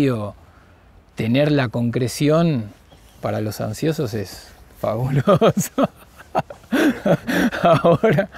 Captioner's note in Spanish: risas